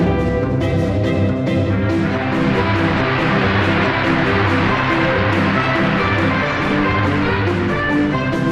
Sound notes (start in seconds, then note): 1.7 audience applauding; 8.1 upbeat music